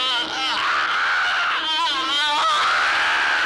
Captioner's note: screams